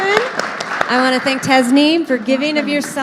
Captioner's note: audience applauding